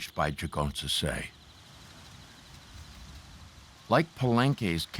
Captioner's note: corn rustling